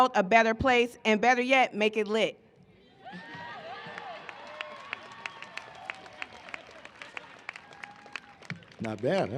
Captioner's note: cheering and applause